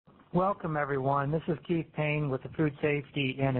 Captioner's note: voiceover